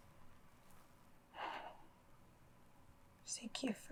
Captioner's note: Abby breathing heavily